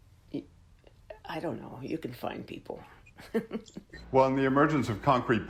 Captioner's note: laughs